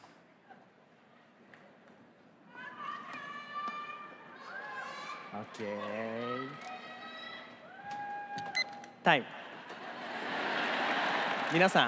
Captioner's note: crowd member shouting; laughter